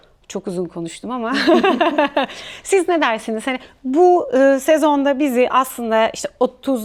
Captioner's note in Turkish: kahkaha